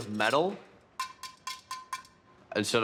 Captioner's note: tapping